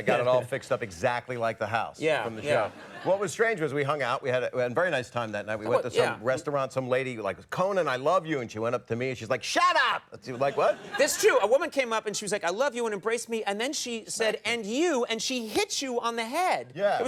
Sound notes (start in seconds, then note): 10.3 audience laughs